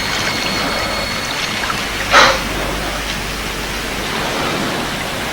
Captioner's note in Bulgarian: аплодисменти